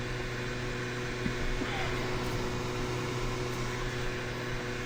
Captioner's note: engine revving